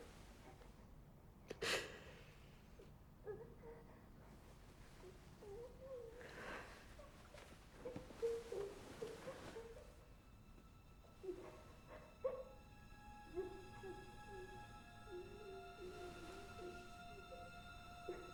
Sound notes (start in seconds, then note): 1.9 Bryn gasps; 5.4 child whimpering; 11.0 gentle tense music